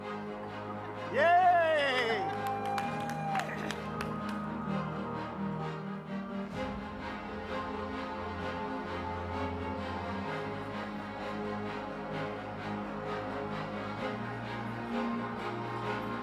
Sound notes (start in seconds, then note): 1.1 audience cheers